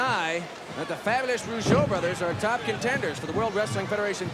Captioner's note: crowd cheers